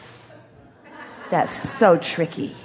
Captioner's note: audience laughs